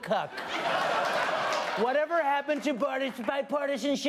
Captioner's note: laughter